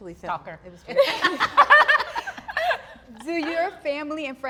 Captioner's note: all laugh